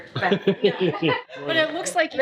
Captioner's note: laughs